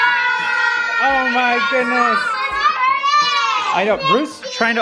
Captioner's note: kids shouting happily